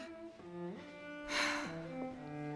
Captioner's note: sighs